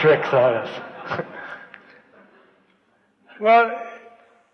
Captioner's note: laughs, laughter